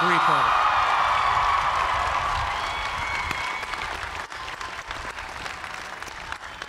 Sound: cheers and applause

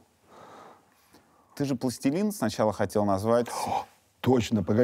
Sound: gasps

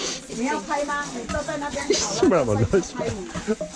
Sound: laughing

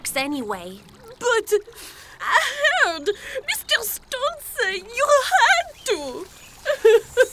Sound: sniffles; sobs

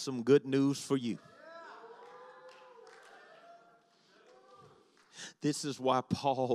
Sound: congregation shouts

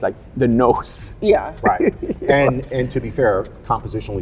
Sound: chuckles

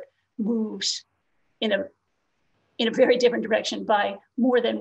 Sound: laughs

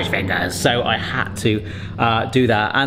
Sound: TARDIS sound effects

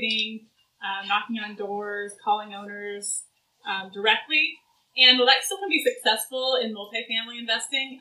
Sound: none

